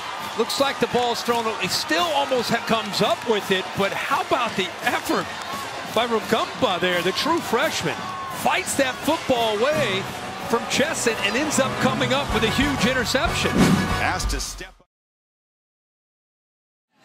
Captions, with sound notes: Looks like the ball was thrown a little- He still almost has- comes up with it but how about the effort By Rugamba there, the true freshman Fights that football away From Chesson, and ends up coming up with a huge interception *Woosh* asked to step-